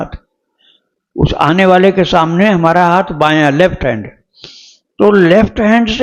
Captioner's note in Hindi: नाक से की जाने वाली आवाज़